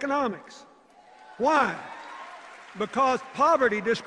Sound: cheers, applause

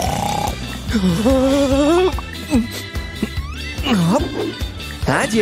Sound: snoring; moaning; snoring

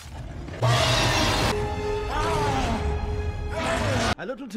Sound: shouts of pain

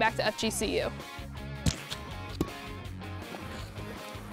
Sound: splat, ball hit

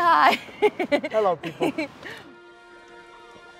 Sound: Lana giggling; gentle music

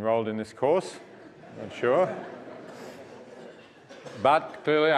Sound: laugh

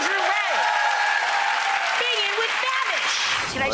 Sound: audience applauding

